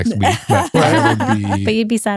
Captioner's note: laughing